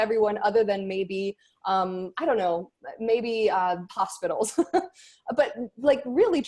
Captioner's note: laughs